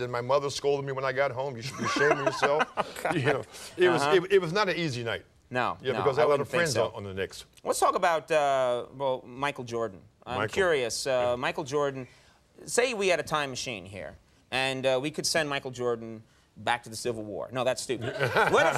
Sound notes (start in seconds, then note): 1.7 Conan laughing